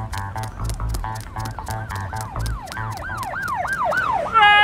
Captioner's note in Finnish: sireenien ääni lähestyy